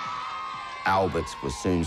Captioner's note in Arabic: الجمهور يهتف